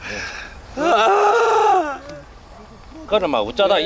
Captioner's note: A ghost is crying hard